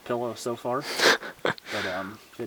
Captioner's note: laughing quietly